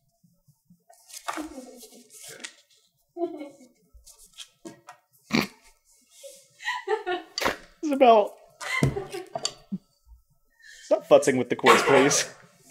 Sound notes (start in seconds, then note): 1.0 giggling mischievously; 5.3 snorts; 8.6 laughing; 8.6 still laughing